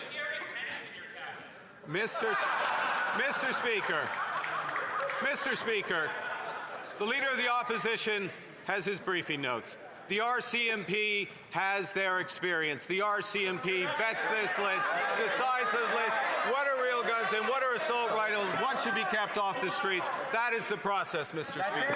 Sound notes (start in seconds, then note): 6.0 laughter